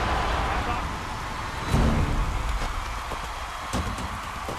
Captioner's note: announcers yell; crowd cheering